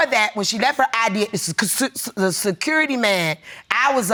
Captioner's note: stammering